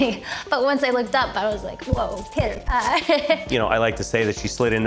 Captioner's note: laughs; laughs